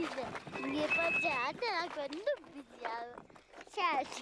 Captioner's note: tibetan spoken audio